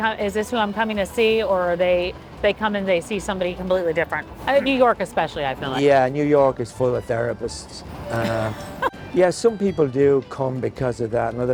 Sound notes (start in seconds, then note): 8.1 chuckles